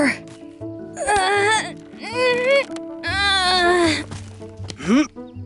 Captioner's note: Ivy grunting; Zaid grunting